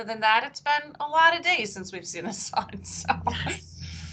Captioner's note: laughing